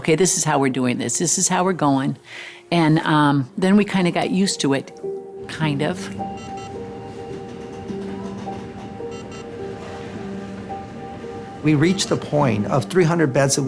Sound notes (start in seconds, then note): 5.5 medical machines beeping